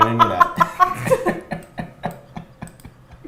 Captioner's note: both laughs